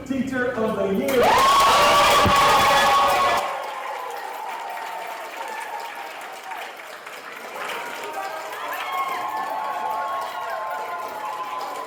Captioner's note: cheering and applause